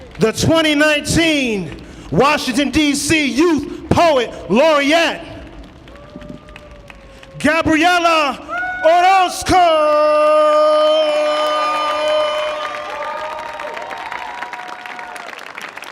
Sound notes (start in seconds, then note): 10.2 audience cheering